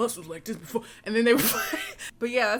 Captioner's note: laughs